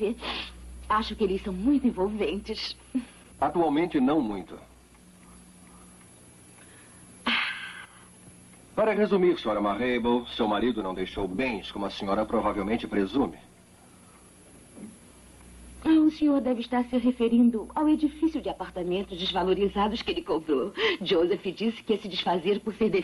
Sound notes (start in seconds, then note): 7.3 sighs